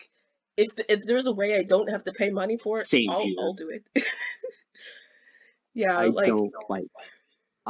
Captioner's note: laughs